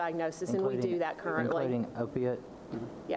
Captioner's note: speaking away from microphone